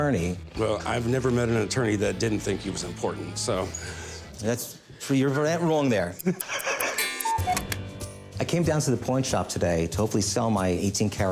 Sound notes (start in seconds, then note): 6.2 Corey laughs; 6.2 ticking, cuckoo bird chirps